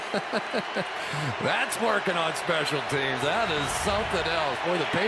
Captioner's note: laughs